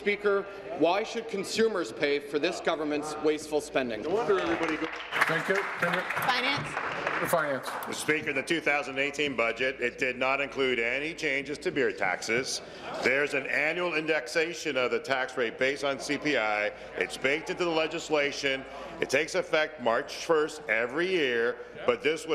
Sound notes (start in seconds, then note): 7.3 applause